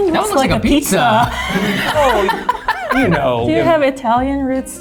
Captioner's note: laughs